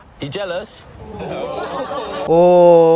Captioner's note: boys laugh